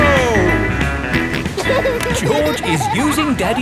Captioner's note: snorts and laughs